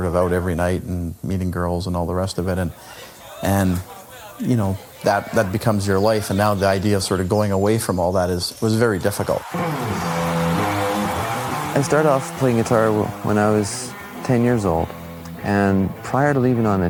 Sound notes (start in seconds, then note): 6.2 restaurant ambiance